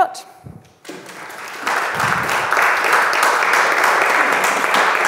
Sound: audience clapping

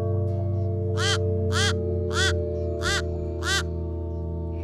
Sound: crow caws

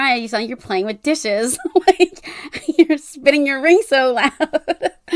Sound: laughing

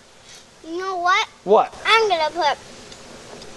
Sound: voiceover

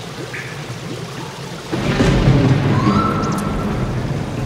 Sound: thunder crashes

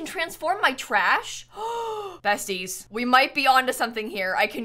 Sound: gasps

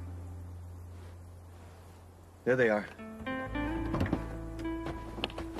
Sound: flames crackling

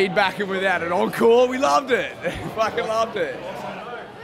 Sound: laughs

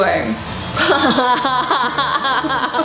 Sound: laughing

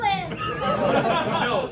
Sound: laughter

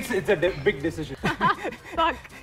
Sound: laughs

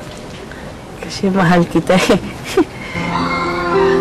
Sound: giggles

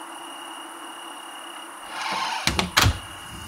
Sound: door creaks shut

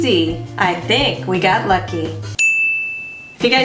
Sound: ding

